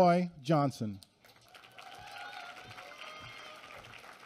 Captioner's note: applause